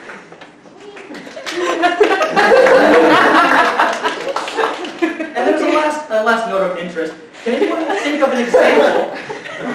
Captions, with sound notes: *Laughter* As a last note of interest, can anyone think of an example...